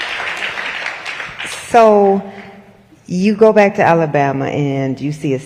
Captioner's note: applause